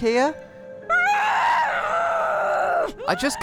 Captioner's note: The Witch makes frustrated noises